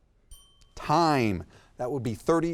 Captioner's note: bell dings